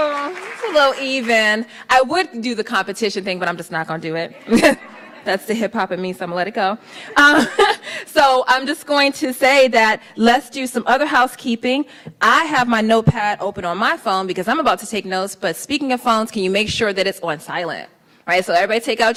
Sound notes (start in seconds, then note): 4.4 laughs; 7.4 laughs